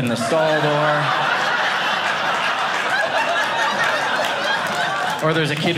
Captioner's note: audience laughing